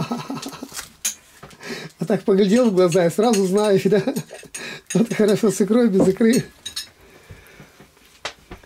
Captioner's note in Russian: смеется